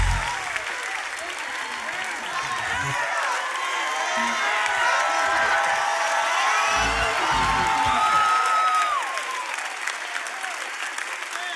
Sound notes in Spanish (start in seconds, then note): 3.7 Aplausos